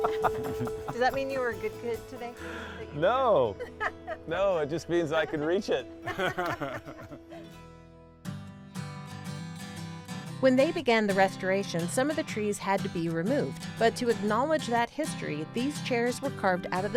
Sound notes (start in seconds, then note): 0.0 bell reverberates; 0.0 group laughs; 6.0 group chuckles